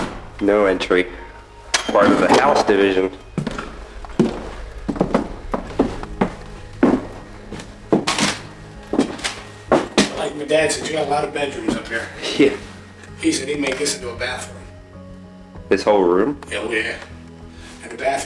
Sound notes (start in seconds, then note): 12.4 scoffs